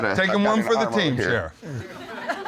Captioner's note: laughing